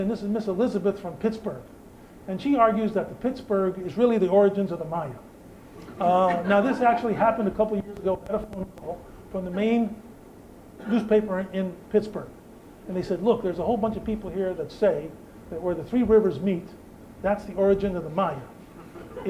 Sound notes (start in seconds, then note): 5.8 laughter